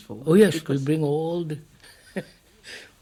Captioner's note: laughs